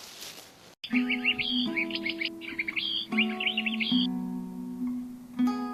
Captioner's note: burds tweeting; banjo music